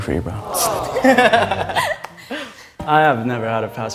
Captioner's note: laughs